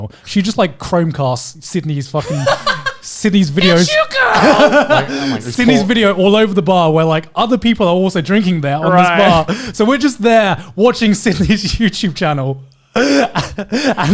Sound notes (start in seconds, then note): 3.6 laughing